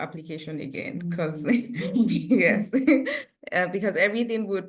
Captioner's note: chuckles